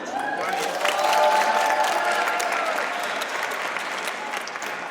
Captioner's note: audience cheers and applauds